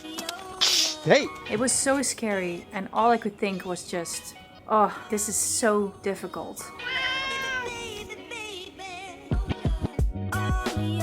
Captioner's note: snorts